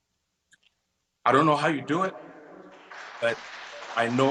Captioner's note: audience applauds